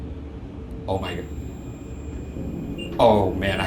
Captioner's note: REM-Pod beeping